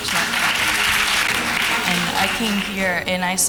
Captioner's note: applause